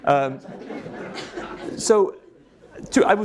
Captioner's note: audience laughing